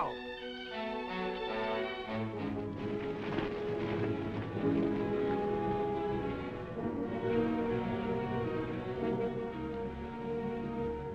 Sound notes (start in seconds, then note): 0.0 dramatic music; 2.2 horse hooves clopping; 5.7 dramatic music